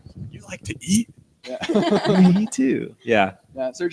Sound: all laugh

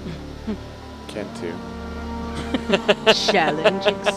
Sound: laughing

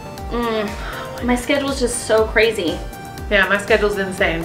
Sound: sighs

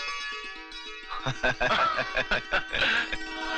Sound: laughing

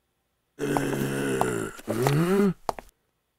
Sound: grunting

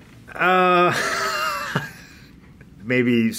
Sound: laughs

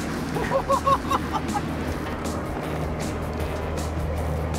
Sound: person laughing

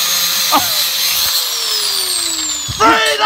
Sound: angle grinder powers down

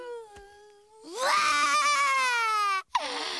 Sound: crying

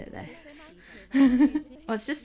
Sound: uneasy laugh

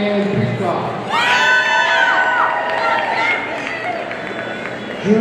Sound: audience cheering

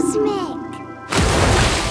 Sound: loud splash

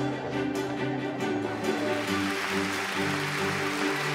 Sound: applause

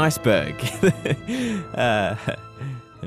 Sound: laughs

